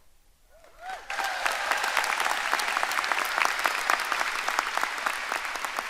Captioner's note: audience cheering and applauding